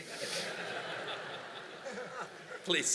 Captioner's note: laughter